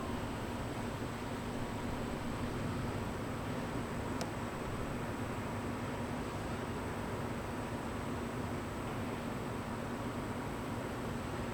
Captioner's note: wind blowing